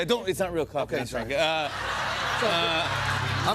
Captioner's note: laughter